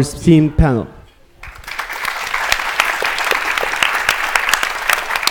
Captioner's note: applause